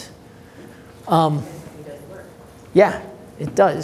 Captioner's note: voice muffled